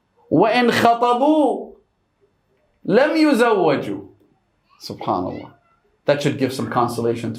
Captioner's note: Arabic